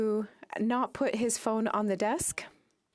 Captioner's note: speaking French